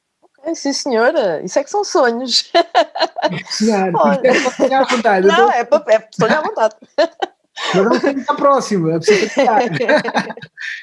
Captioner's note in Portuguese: risos